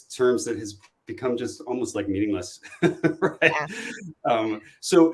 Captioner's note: laughter